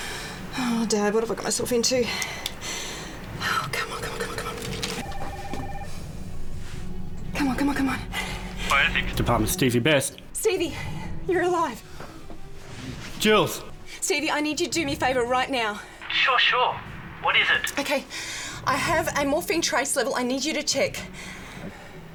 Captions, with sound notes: Oh, Dad, what have I gotten myself into? Come on, come on, come on. (phone ringing) Come on, come on, come on, - Department, Stevie Best. - Stevie, you're alive! - Jules. - Stevie I need you to do me a favor, right now. - Sure, sure, what is it? - Okay, I have a morphine trace level I need you to check.